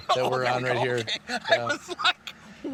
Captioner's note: laughing